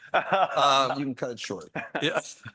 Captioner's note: laughs